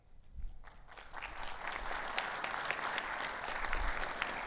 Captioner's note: audience applauds